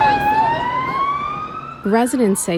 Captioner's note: residents talking; siren wailing